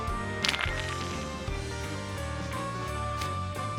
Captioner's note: dice rolling